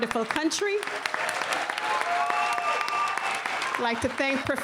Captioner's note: applause